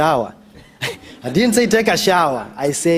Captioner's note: laughter